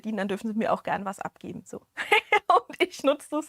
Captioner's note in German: gelächter